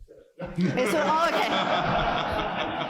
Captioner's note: laughter